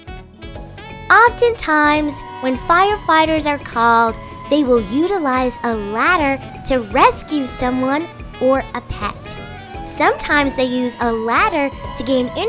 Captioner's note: fire truck horn in background